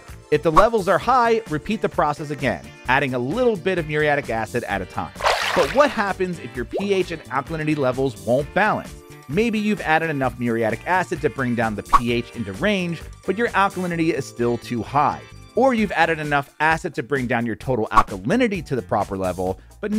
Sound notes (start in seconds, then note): 5.1 water burbles